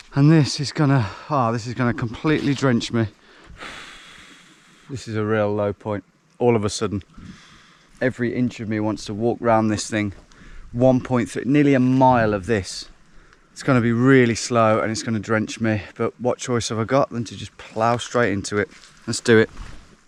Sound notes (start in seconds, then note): 3.2 exhaling